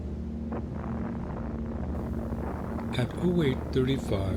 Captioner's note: bomb exploding